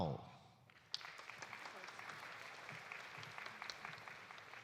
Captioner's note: audience applauding